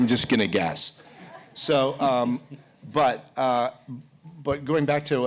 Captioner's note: laughter